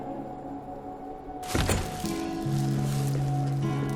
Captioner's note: door squeaks open